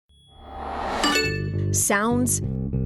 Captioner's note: phone notification pings